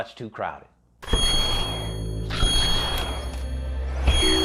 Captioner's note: intense ringing